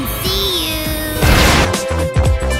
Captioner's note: comedically timed explosion